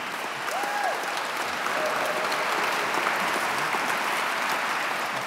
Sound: audience clapping

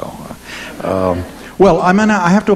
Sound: audience chuckling

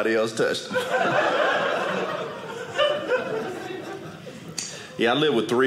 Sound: audience laughing

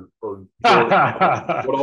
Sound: laughs

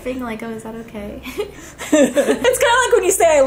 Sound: giggles

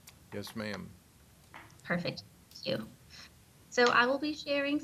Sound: brief pause in audio

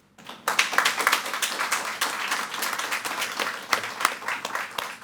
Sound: audience applauding

